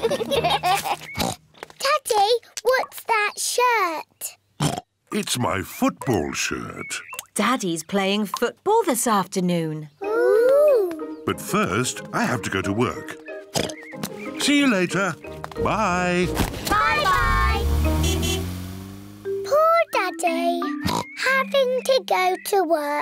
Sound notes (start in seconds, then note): 0.3 oinks; 13.5 oinks; 16.6 toots horn; 20.8 oinks